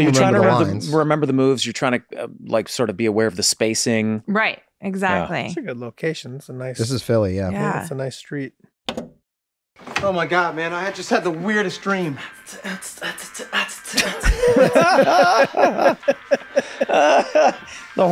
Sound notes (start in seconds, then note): 13.6 Dennis beatboxing; 14.0 everyone laughs